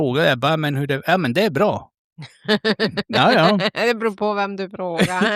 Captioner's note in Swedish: skratt